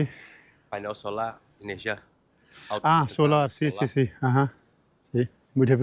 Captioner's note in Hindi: स्पेनिश में बोलते हुए